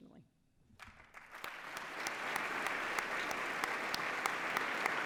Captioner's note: applause